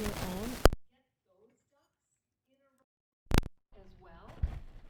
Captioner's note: microphone cuts out, audio goes silent